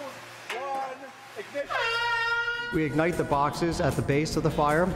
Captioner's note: airhorn roars